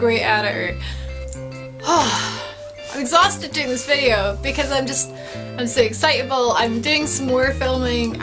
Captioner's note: sigh